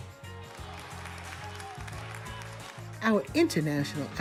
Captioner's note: audience clapping